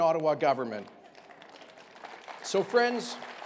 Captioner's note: applause